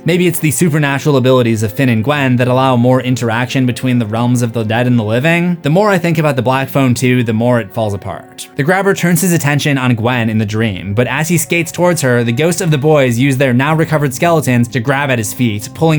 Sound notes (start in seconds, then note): none